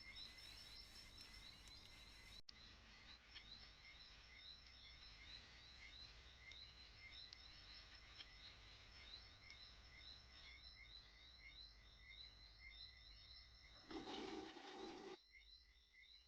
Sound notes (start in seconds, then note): 13.8 toilet flushing